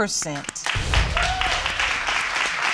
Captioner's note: applause and cheering